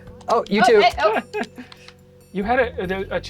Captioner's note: laughs